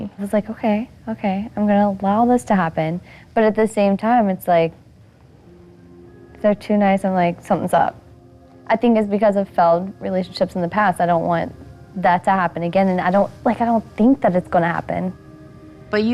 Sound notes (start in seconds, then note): none